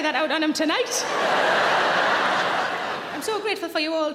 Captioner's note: audience laughing loudly